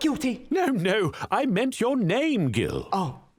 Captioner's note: voiceover